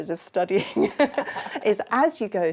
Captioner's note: laughter